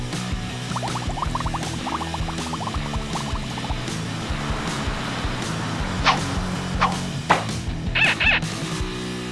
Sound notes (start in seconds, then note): 0.7 bubbles; 8.0 duck squeak